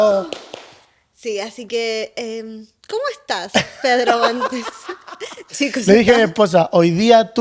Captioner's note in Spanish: risas